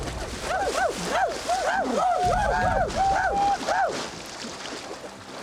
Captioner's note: whooping